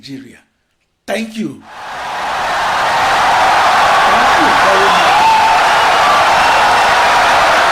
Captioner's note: wild applause and cheering for 17 seconds